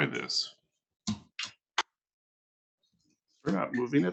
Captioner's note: microphone crackling; pulpit banging